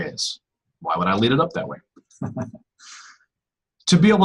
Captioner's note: laughs